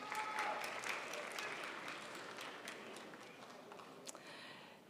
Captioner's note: crowd applauds